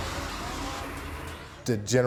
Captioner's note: beeping sounds